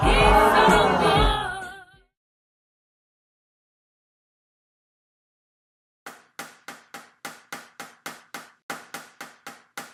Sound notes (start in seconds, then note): 6.3 knife taps